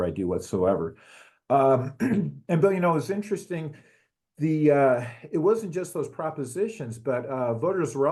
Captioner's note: cough